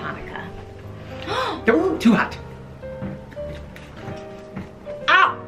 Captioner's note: gasps